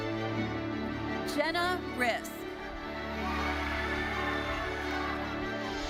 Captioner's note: audience cheering